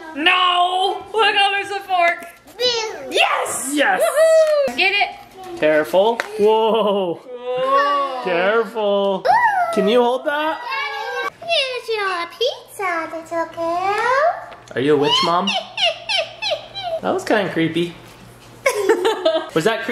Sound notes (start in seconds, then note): 11.7 witchy voice